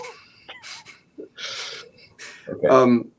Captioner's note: laughs